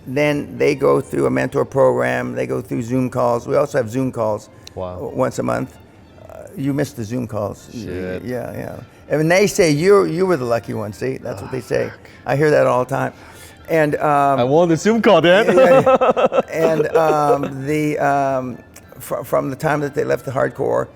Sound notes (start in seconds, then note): 15.1 laughs